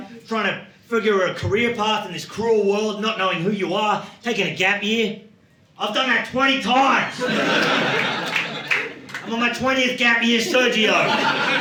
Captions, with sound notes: Trying to figure a career path in this cruel world, not knowing who you are, taking a gap year. I've done that 20 times. (audience laughing) I'm on my 20th gap year, Sergio."